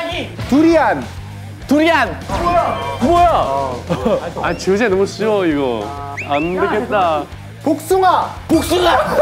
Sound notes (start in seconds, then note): 4.1 complaining